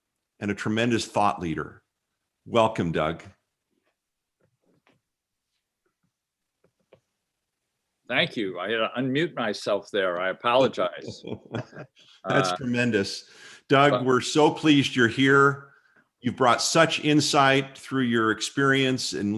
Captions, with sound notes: and a tremendous thought leader. Welcome, Doug. >> Thank you. I unmute myself there. I apologize. >> [LAUGHTER] That's tremendous. Doug, we're so pleased you're here. You've brought such insight through your experience in